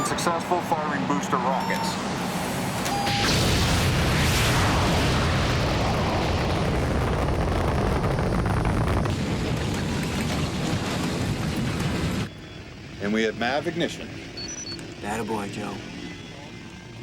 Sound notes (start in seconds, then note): 2.8 alarm